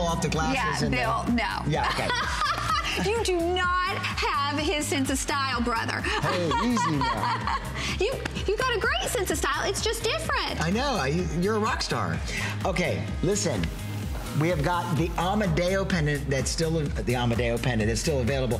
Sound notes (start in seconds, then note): 1.8 laughter; 8.0 laughter